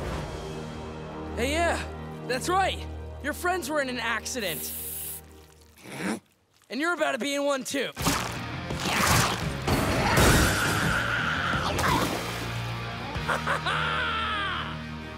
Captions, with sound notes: Yeah, that's right. Your friends were in an accident. And you're about to be in one, too. [screaming] [laughing]